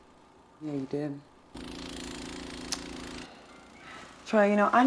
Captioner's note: snowblower whirls